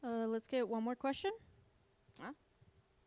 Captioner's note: voiceover